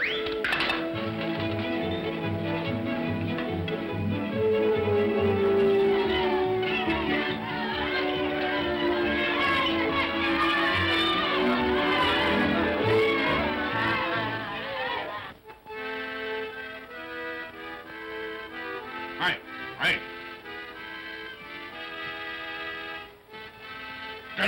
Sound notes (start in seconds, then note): 0.2 whimsical music; 5.8 children's voices; 15.5 accordion plays